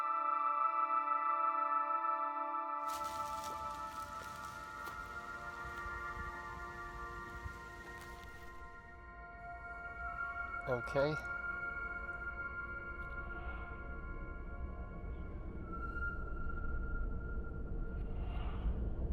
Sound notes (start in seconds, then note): 12.7 weird noises and screams in the back ground